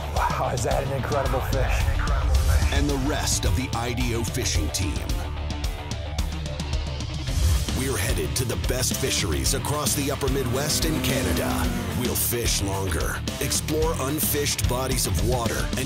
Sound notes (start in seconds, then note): 3.0 voiceover